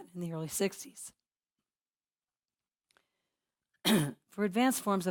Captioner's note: cough